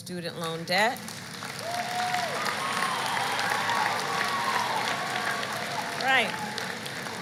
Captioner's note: applause